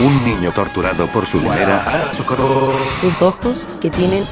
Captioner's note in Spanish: gritos